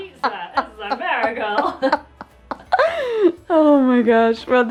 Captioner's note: both Laughs